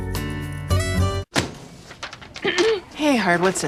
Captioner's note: thump; clears her throat